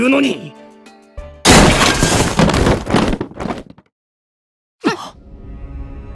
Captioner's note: click! Crash!